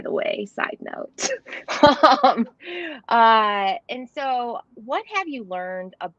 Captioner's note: laughter